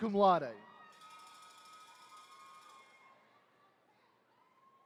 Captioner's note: attendees cheering